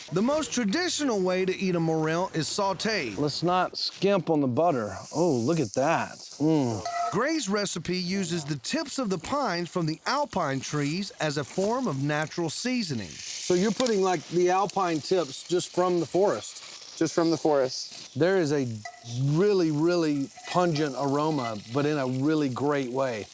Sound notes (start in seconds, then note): 6.1 sizzling sounds